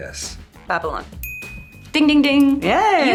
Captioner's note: buzzer dinging